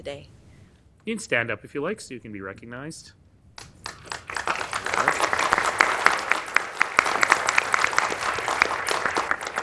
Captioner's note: applause